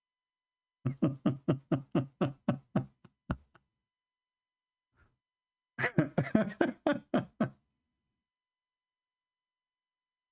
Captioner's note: Ketawa